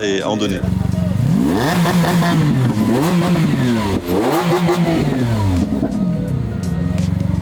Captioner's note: revving up